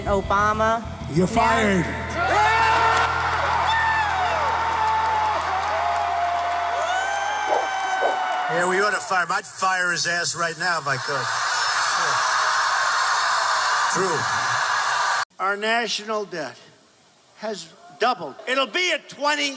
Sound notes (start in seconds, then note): 2.0 crowd cheering; 10.8 crowd laughing